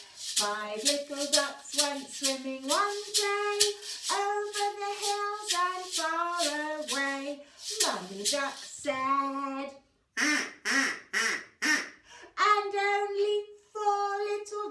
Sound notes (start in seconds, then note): 10.2 quack, quack, quack, quack